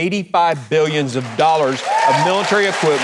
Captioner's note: audience applauding